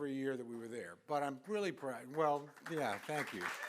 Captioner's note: applause